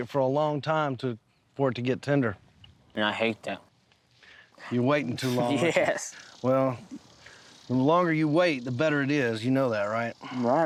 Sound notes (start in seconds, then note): 5.2 chuckling